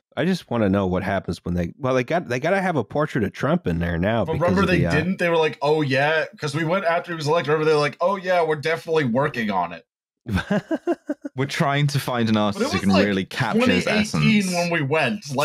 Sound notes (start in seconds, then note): 10.3 laughter